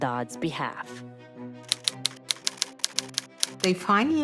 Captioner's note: typewriter clicking